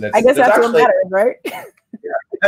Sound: chuckles

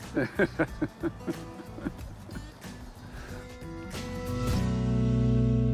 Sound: chuckling

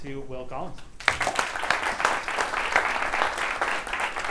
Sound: applause

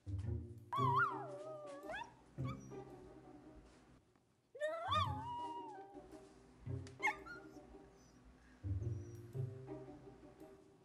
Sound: dog whimpering

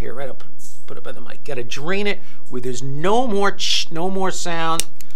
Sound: hissing sound

